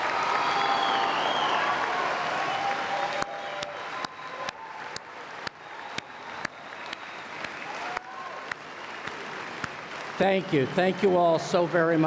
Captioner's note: cheers and Applause